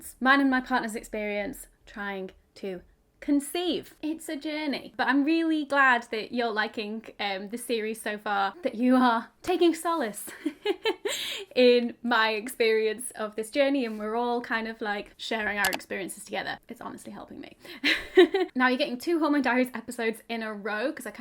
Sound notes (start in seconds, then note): 10.3 chuckles; 17.8 chuckles